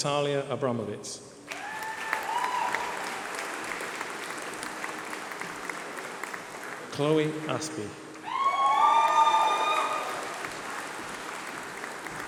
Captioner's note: applause